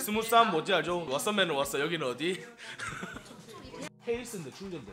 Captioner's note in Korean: 웃음